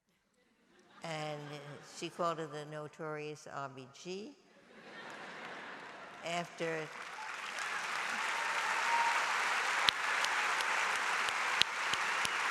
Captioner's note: laughter and applause